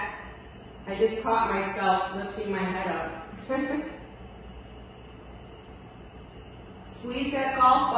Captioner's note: chuckles